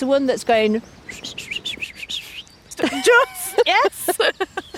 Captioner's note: imitating bird call